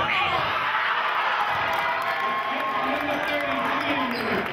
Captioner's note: cheering